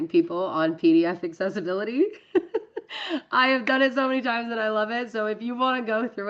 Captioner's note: laughs